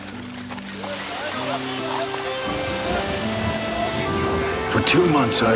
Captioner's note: gentle music; rain splashes